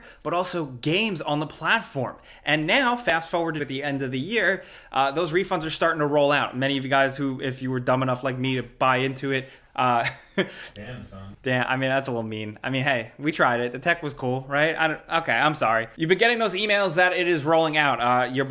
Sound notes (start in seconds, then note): 10.0 chuckles